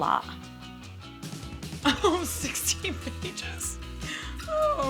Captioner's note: laughs